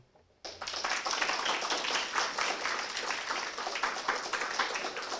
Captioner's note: applause